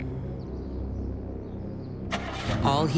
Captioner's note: engine turns over